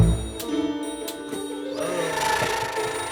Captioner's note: creepy music; light switch being turned on and off